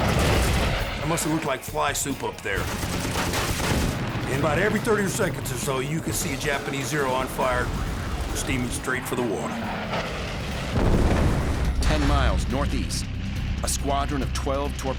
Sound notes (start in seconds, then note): 10.0 explosion